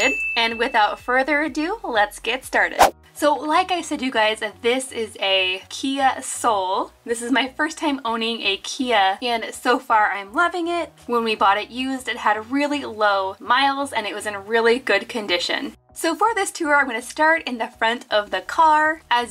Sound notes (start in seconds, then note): 0.0 bell ringing; 2.7 whooshing